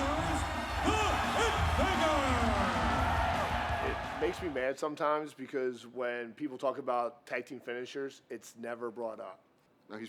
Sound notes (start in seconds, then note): 2.7 crowd roars